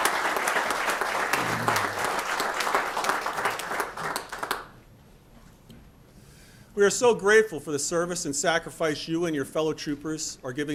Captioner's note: applause